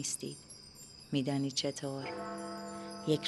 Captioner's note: clock bell